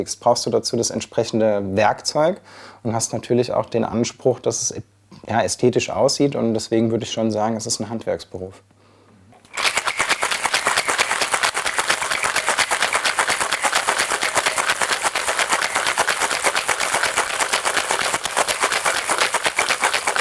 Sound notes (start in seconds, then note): 9.3 rattling sound